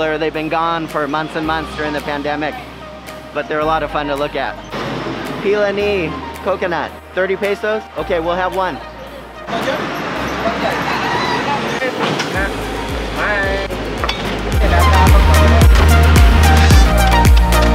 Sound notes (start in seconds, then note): 8.7 background chatter; 14.9 upbeat music